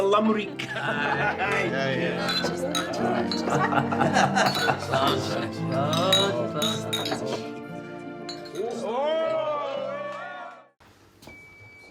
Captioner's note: laughter and cheering